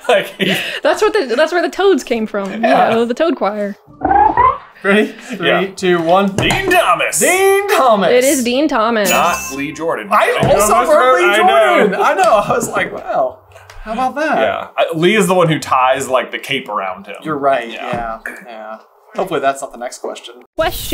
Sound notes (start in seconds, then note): 3.9 musical ribbit